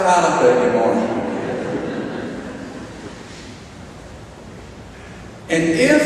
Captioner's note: audience laughing